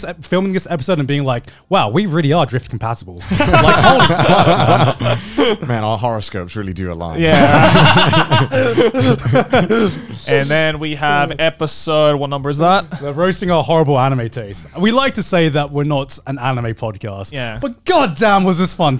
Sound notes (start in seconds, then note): 3.2 laughing; 7.2 laughing